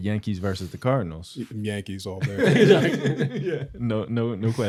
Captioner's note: laughter